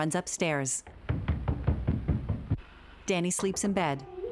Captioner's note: footsteps thundering; knocking on door